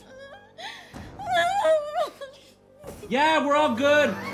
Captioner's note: Kathy crying